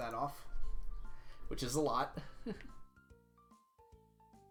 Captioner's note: laughs